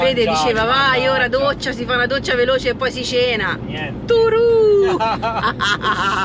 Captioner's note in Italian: risate